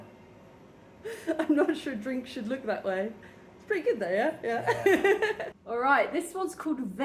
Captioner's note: laughing